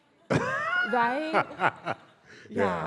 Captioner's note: laughs